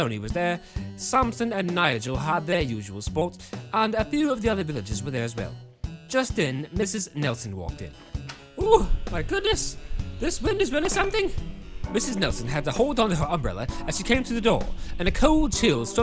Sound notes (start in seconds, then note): 9.2 wind blowing, glass rattles